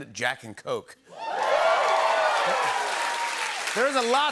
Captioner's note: cheering and applause